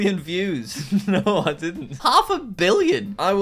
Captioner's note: laughing